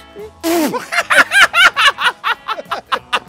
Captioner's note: Breaks Laughter